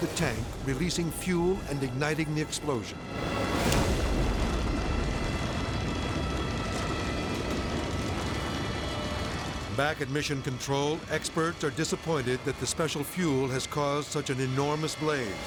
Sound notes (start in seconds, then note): 4.0 dramatic music; 4.0 flames roaring